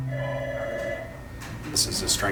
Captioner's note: telephone rings